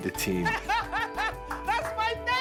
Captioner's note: joyous laughter